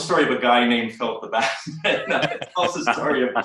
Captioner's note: laughs